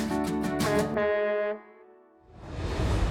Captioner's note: uplifting music; horn honks